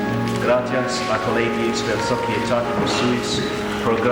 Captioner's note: speaking Latin